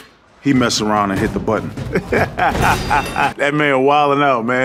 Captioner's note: laughs